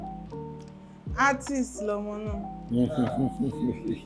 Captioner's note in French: parle en yoruba